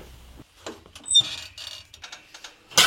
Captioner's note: squeaking